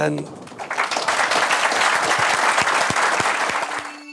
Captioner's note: audience applauding; electronic music